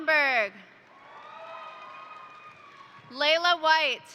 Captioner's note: crowd cheering; crowd applauding